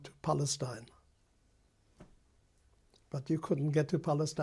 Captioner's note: pauses for 3 seconds